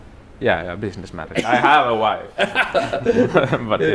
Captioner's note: Destin laughs